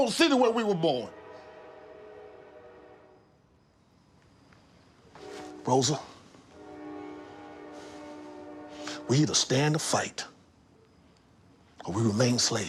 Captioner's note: train whistle blares